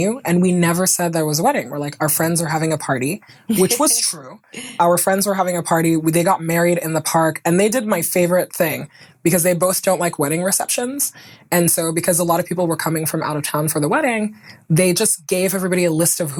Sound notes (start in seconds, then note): 3.5 chuckling